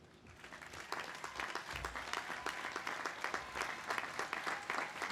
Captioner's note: audience applauding